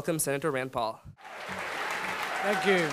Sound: audience applauding

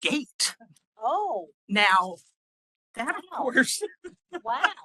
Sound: laughing

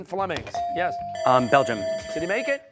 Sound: bell ringing

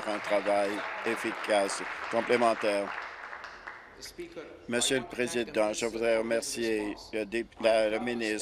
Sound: applause

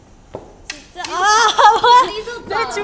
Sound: laughing

